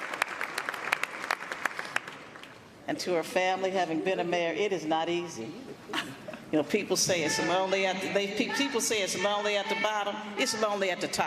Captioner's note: applause